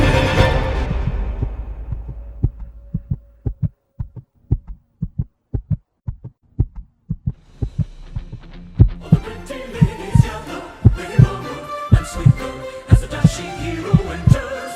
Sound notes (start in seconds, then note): 0.0 fast heart beat; 9.2 heart beat normal again